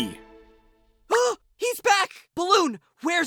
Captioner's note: gasps